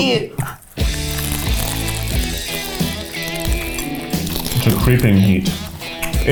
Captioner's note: both crunching; upbeat rock music